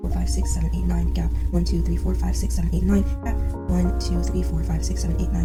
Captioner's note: sped up audio